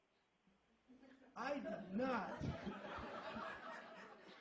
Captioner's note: laughter